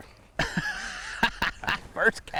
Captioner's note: laughs